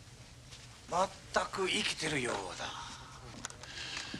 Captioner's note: man speaking Japanese